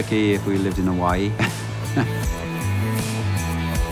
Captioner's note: laughs